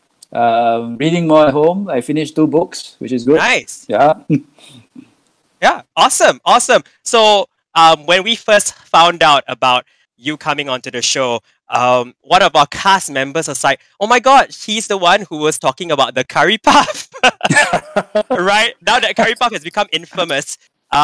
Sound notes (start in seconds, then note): 16.7 both laughing